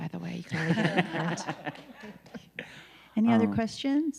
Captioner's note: people laughing